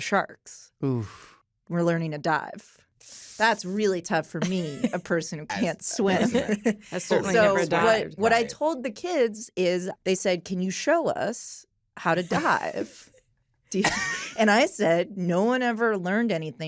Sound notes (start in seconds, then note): 5.6 laughter; 13.8 laughter